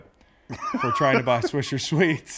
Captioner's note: laugh